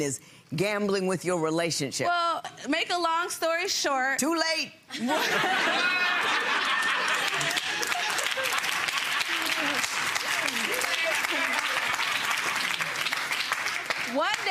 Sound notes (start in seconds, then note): 4.9 audience laughing; 6.2 audience clapping